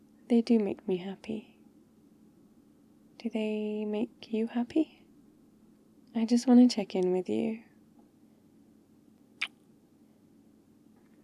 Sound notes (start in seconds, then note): 9.4 kiss